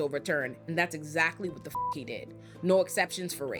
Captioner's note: beep